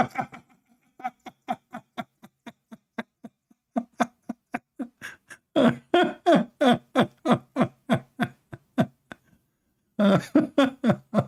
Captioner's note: Ketawa